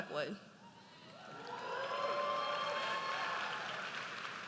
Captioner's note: audience cheers